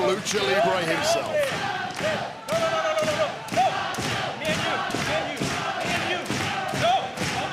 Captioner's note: crowd chanting